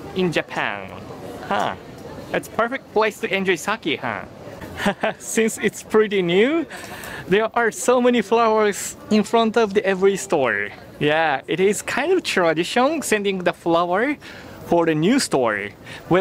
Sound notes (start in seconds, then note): 4.6 chuckles